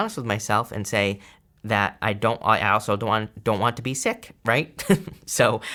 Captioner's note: chuckles